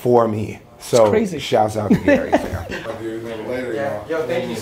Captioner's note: Gary laughs